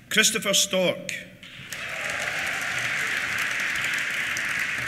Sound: cheers; applause

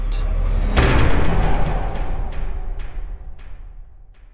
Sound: impact

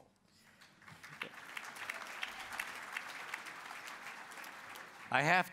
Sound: applause

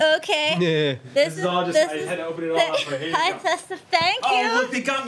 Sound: overlapping chatter

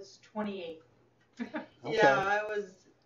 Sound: laughing

